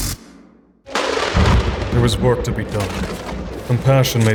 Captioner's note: thunder crashes